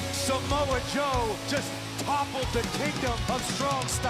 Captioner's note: bell ringing